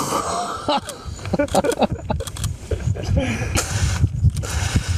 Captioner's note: men laughing